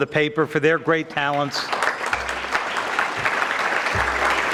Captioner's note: audience clapping